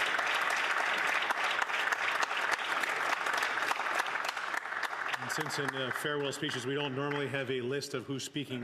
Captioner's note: applause